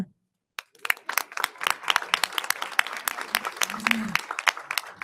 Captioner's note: audience applauding